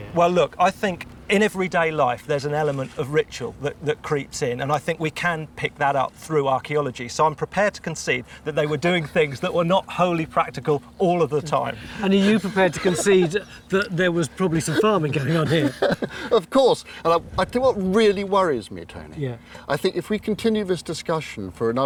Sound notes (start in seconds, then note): 16.2 laughs